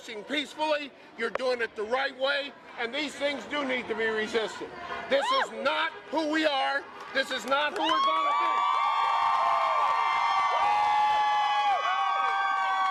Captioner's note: cheering